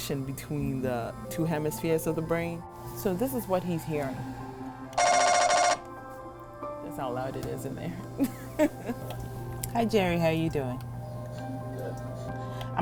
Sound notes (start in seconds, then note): 4.9 loud beeping; 8.2 laughs